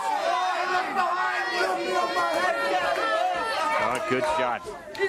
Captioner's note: crowd chatter